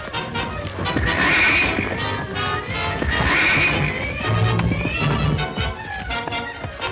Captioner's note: hooves clomping; horse neighing